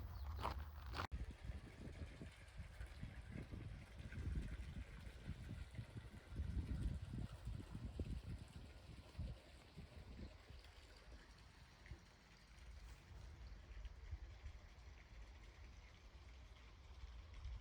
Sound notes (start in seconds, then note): 2.9 water trickling